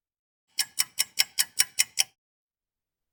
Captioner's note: ticking clock